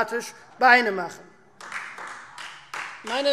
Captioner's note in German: Beifall Freie Demokraten